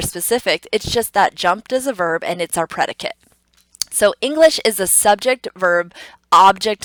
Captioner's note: tongue clicks